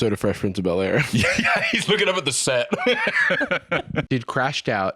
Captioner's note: laughs